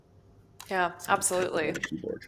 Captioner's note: typing